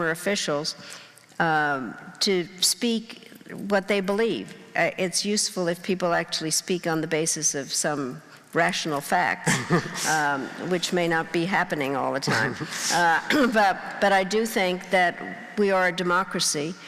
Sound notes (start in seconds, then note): 9.4 laughing